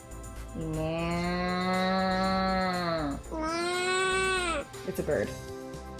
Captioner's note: makes cow mooing noise